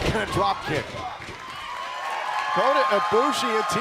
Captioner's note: crowd cheering